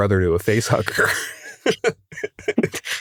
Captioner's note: laughs